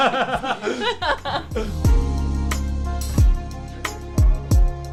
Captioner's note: laughing; bright upbeat music